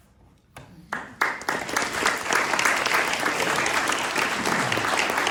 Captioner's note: applauding